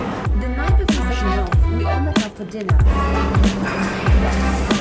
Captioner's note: speaking faintly